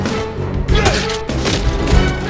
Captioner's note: gun shot